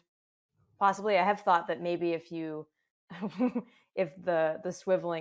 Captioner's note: laughs